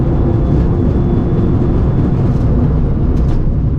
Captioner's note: engine rumbling